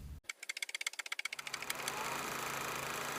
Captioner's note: typewriter typing; projector whirring